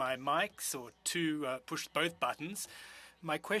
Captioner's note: speaking French